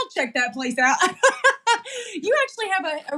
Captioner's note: laugh